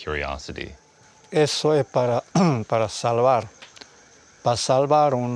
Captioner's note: speaking Spanish